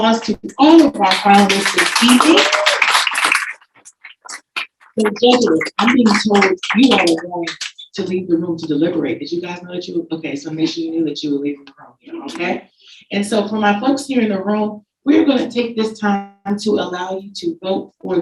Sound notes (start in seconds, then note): 1.0 audience applauding